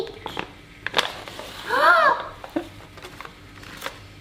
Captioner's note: gasps